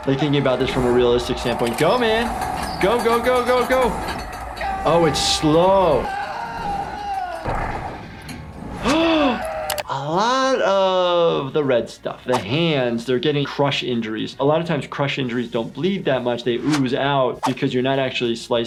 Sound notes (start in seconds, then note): 4.6 screaming; 7.7 gasps